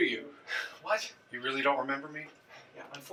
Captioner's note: sighs